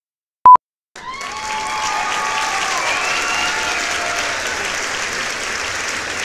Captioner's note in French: Applaudissements et sifflements